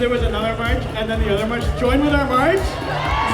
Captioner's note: cheers